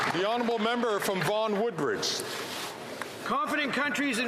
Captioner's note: some Applause